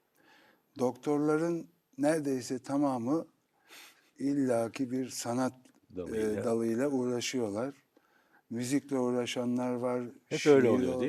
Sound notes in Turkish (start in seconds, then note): 3.5 homurdanır